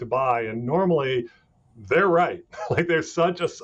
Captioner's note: chuckling